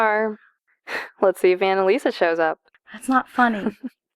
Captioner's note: Corrine laughs; laughs